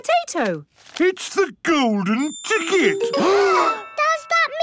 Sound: gasps

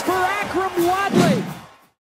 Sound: woosh

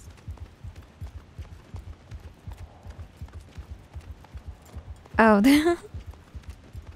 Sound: giggles

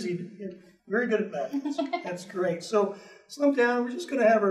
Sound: giggles

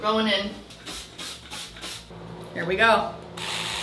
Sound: cleaner spraying

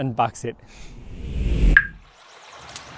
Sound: air whooshing; stream trickling

